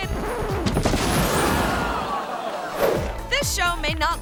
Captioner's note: record scratching; stage thuds; people screaming